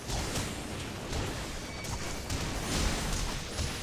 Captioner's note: gunshots